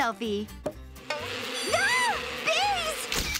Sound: screaming, buzzing

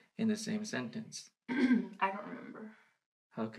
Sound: clears throat

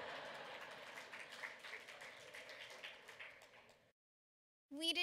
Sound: laughter

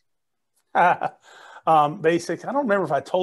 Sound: chuckles

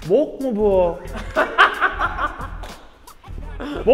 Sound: breaks down laughing

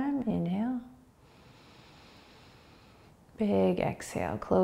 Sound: inhaling

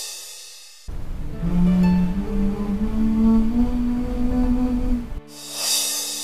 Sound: humming melodically

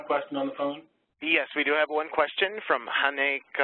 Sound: voiceover

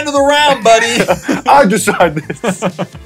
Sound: laughs

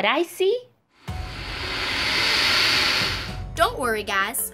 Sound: alligator hisses

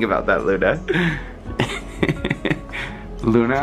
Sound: laughter

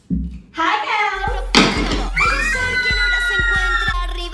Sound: all scream

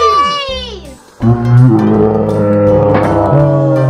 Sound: groaning

